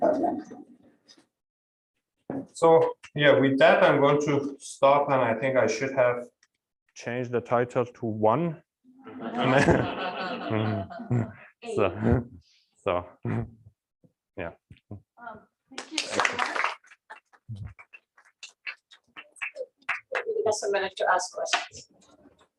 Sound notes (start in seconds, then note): 9.0 laughter; 15.7 applause